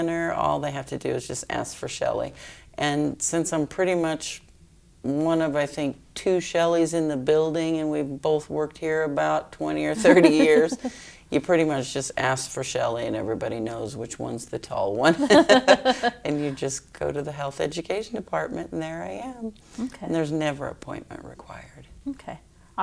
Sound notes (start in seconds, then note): 15.7 laughter